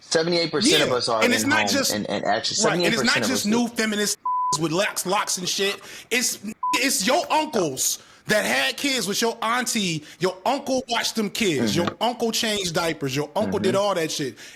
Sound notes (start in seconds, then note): 4.2 beep